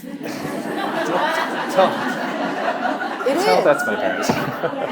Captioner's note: audience laughing